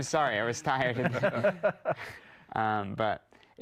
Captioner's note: laughing